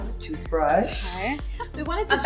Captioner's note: laughs